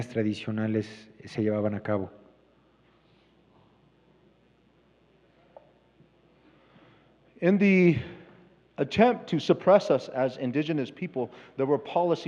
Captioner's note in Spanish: Expositor habla en inglés